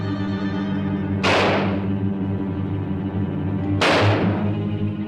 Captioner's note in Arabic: صوت إطلاق النار